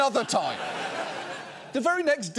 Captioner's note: studio audience laughs